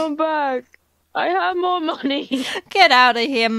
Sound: laughs

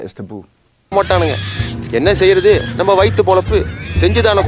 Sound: character narrating in foreign language; characters laughing

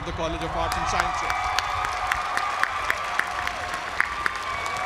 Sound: applause

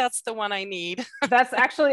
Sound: laughs

